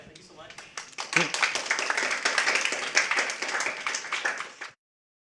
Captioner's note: applause